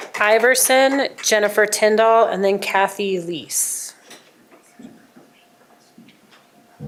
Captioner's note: applause